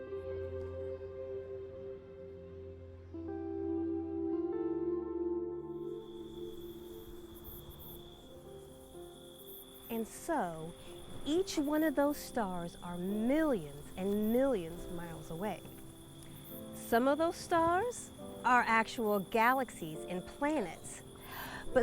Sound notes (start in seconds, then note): 0.3 gentle music; 6.9 insects chirping